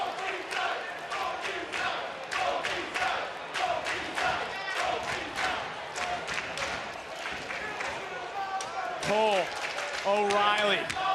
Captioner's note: audience chanting